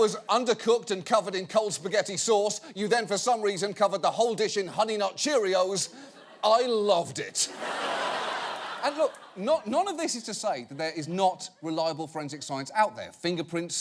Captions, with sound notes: The tuna was under cooked and covered in cold spaghetti sauce. You then for some reason cover the whole dish in honey nut cheerios. -I loved it. -(AUDIENCE LAUGHING) And look, none of this is to say, that there is not reliable forensic science out there.